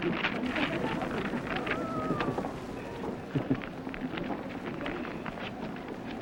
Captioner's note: laughter